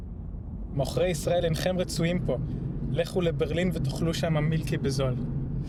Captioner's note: speaking foreign language